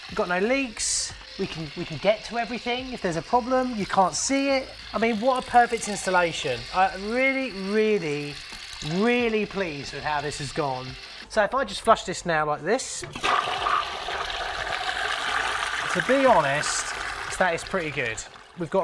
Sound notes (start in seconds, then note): 2.4 water hisses; 13.3 water rushes out